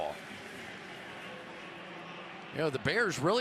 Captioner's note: pa announcement